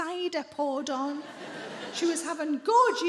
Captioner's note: audience laughs